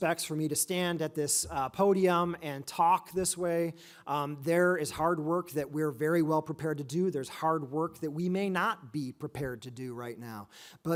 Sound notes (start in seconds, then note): none